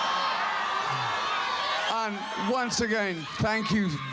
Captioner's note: audience cheering